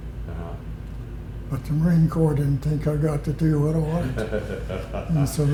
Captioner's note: laughter